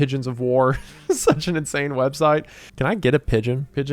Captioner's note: laughs